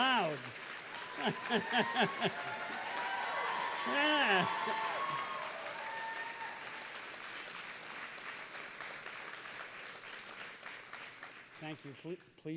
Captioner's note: applause